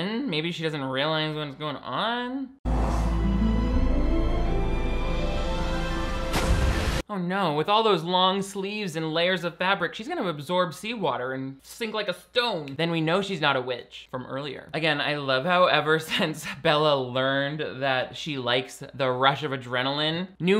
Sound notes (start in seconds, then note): 2.6 dramatic music; 6.3 water splashes